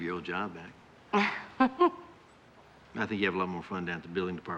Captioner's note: laughs